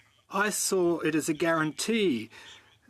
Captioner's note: speaking French